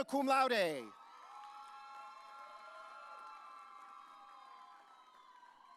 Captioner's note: audience cheering